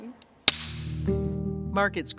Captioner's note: clapperboard clacks; gentle music